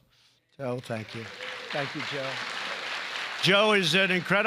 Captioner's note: applause